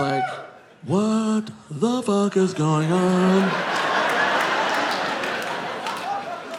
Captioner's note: audience laughing